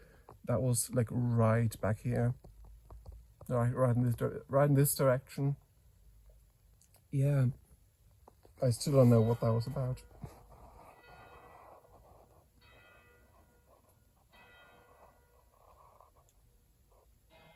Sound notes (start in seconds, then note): 10.2 church bell 1x: quarter past; 12.6 church bell 2x: half past; 12.7 church bell 3x: quarter; 14.3 chuch bell 4x: full hour; 17.3 chuch bell: 01:00